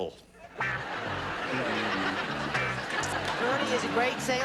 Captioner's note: laughter